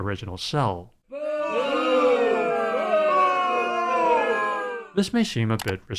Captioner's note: crowd booing